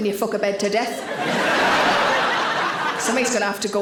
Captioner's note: audience laughing